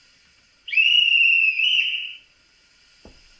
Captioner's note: conductor whistle